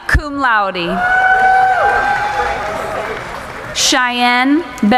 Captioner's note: cheering